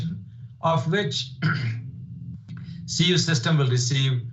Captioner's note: clears throat